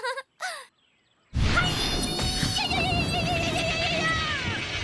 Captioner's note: chuckles; shouts